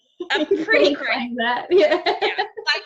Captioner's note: laughs